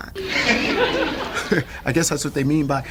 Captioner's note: audience laughs